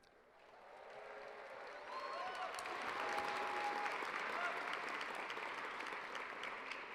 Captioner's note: cheers and applause